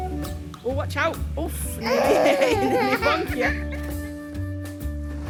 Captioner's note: toddler laughing